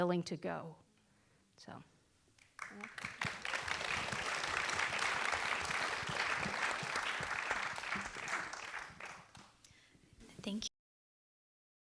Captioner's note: applause